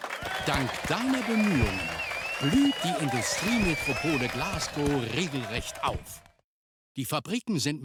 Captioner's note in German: applaus; jubel